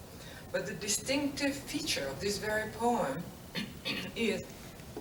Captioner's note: cough